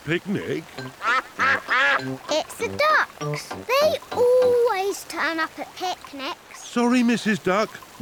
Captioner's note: quacks